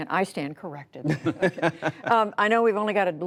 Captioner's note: laughter